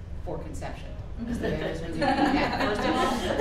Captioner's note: laughing